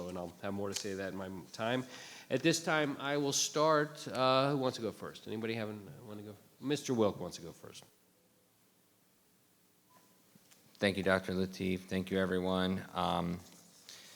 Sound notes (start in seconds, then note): none